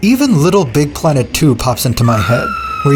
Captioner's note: horror scream 2